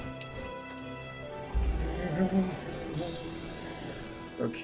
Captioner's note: humming along